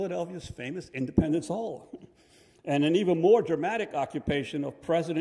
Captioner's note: chuckles